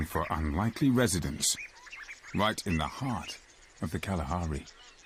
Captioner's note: birds chirping